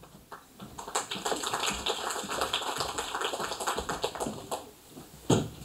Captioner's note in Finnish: Aplodeja